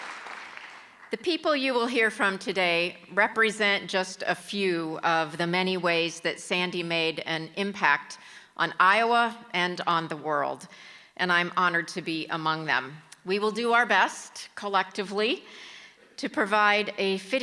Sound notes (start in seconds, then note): 0.0 applause